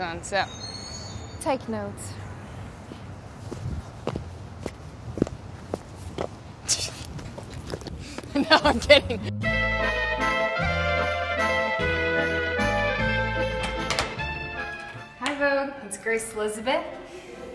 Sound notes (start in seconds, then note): 8.2 laughing; 9.0 swanky music